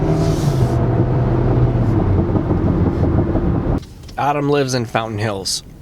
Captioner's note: car engine revving